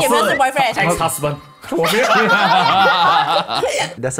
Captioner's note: laughs